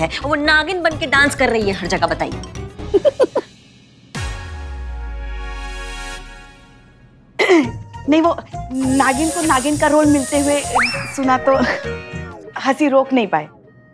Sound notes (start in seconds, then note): 2.9 chuckles; 7.3 clears throat